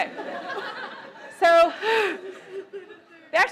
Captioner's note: laughter